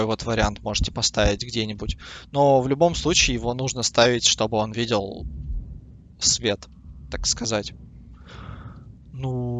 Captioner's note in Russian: вздыхает